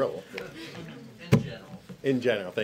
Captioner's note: laughter